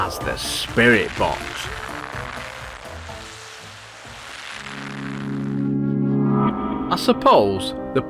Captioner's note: sound FX